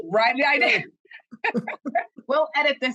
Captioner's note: laughter